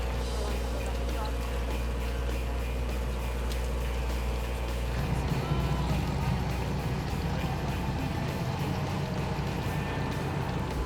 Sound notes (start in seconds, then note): 2.7 boat motor rumbles; 5.0 passenger wails